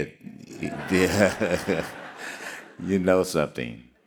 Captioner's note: all laughing